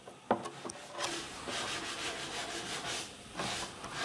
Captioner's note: quiet grinding in the background